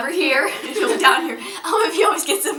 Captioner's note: laughter